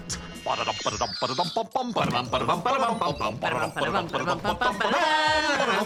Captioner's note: all hum ' '